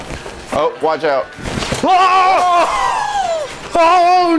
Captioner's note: things breaking